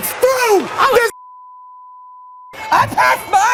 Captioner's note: beep